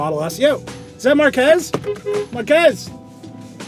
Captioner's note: horn honks